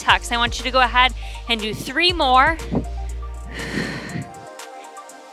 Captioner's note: exhales